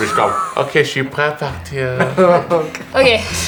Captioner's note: laughs